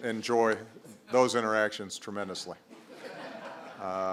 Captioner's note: laughter